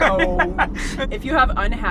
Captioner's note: laughs